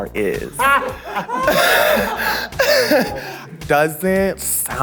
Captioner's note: participants laughing